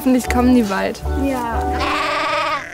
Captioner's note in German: Blöken